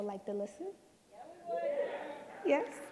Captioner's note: cheering